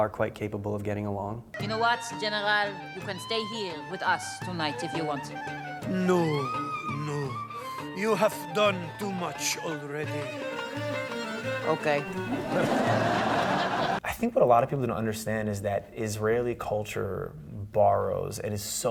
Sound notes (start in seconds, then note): 12.2 laughter